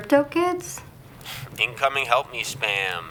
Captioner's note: scoffs